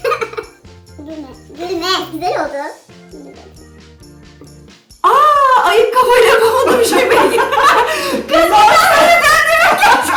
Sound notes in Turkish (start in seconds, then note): 0.0 Gülüyor; 7.3 Bağırmacalar